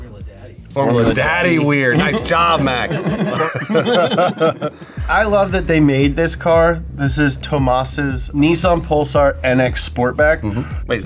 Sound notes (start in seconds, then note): 1.8 all laugh; 10.4 laughs